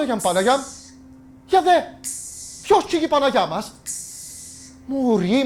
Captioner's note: women hissing and vocalizing